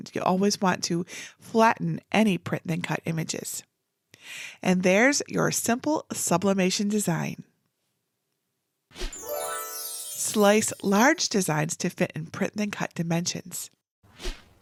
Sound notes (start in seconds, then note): 9.1 graphics whooshing; 9.1 graphics tinkling